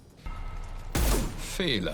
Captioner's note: bang